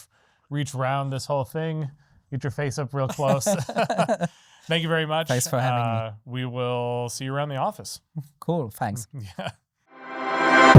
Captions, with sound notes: reach around this whole thing, get your face up real close. (laughing) Thank you very much. Thanks for having me. We will see you around the office. Cool, thanks. Yeah.